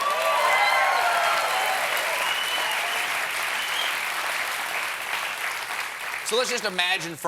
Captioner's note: cheers and applause